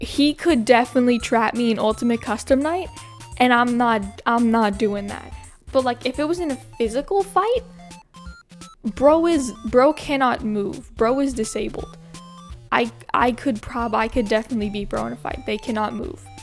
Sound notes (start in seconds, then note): none